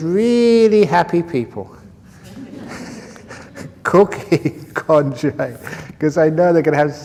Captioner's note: laughter